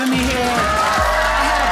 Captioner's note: audience applauding